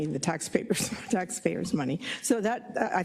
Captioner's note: laugh